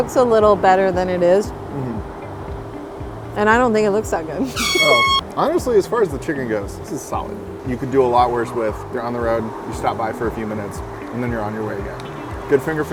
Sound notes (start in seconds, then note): 4.5 air horn